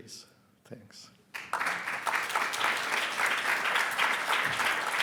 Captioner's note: audience applauds